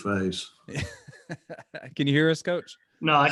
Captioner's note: chuckling